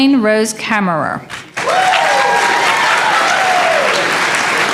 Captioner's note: applause